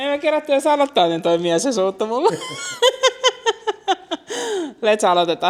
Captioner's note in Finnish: naurua